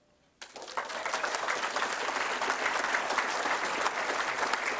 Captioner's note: applause